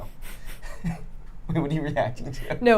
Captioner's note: laughing